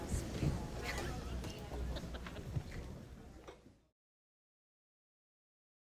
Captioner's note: audience laughing and chattering